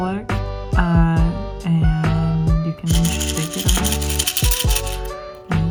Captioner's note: shaking noises